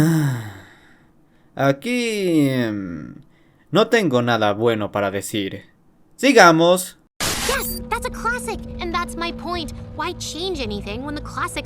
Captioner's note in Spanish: Suspiro